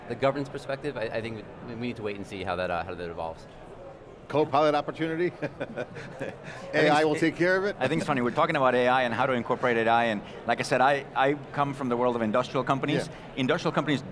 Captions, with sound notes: The governance perspective, I think, we need to wait and see how that evolves. >> Co-pilot opportunity. (laughs) AI will take care of it. >> I think it's funny. We're talking about AI and how to incorporate AI. And like I said, I come from the world of industrial companies. >> Yeah.